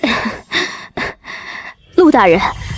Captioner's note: cough, cough